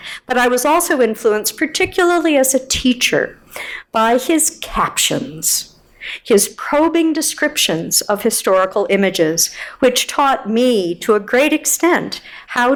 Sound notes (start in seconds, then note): none